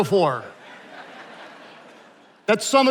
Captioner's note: attendees laughing